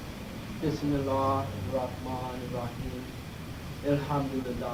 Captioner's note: speaking in foreign language; non-english speech